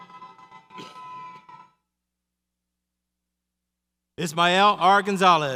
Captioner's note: audience cheers